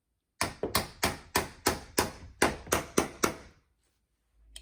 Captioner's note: hammer tapping